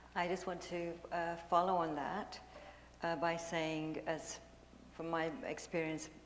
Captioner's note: none